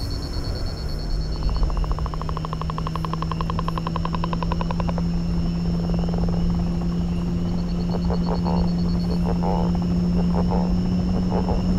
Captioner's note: sounds of amazon